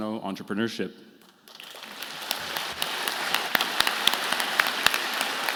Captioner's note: participants clapping